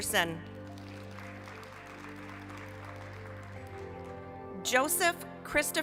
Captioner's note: applause